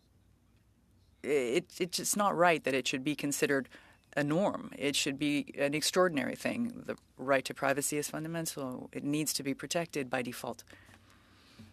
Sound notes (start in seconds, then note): 0.9 speaking French